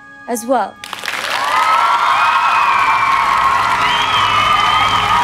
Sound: audience applauding; dramatic instrumental music

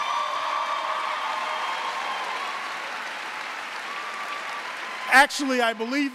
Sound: audience cheering and applauding

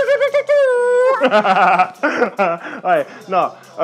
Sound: laughs

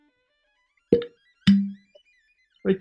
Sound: light pop, low pop

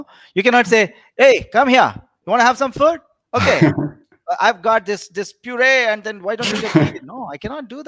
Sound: shouting

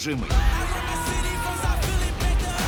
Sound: yells

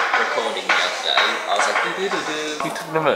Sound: plastic recorder impression

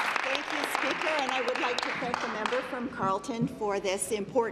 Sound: applause

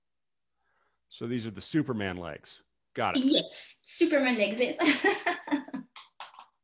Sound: chuckles

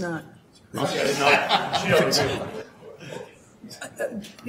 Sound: laughing

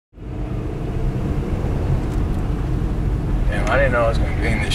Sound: engine revving

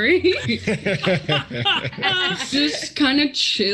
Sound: group laughs

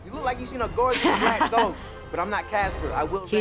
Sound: laughs

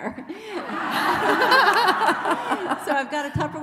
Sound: laughing

